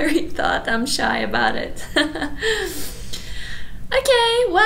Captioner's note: laughs